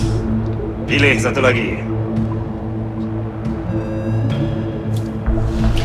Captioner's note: speaking in foreign language